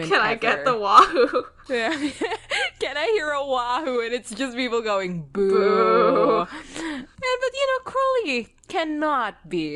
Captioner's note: laughs